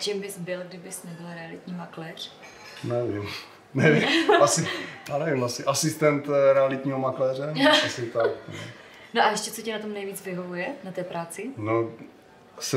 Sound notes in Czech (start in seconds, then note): 7.6 smích